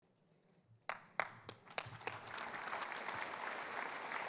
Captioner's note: audience applauds